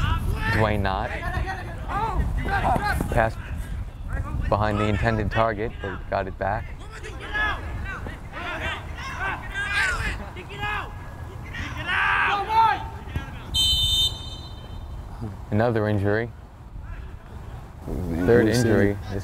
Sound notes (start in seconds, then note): 7.5 players talking and yelling; 13.5 whistle blows